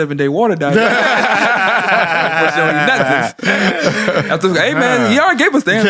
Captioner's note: laughs